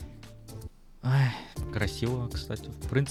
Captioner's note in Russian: Вздох